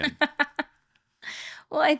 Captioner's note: laughing